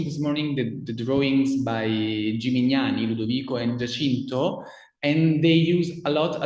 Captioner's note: speaks in foreign language